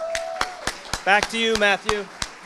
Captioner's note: audience applauding